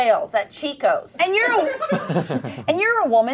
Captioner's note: everyone laughs